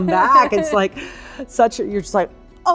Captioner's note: awkward laughing